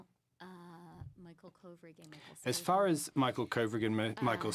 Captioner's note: speaking French